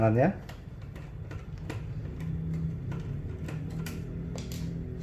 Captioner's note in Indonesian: suara obeng; suara sekrup